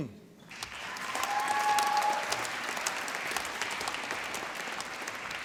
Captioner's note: applause